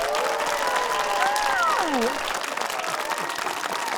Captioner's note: audience wooing and applauding